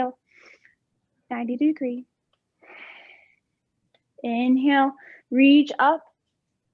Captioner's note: exhaling